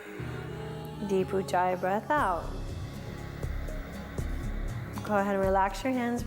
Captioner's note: breathes